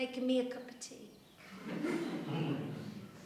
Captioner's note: laughter